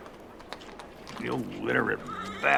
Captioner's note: spits